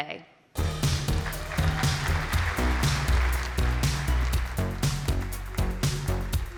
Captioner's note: applause